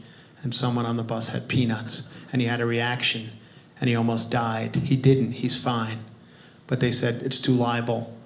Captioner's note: none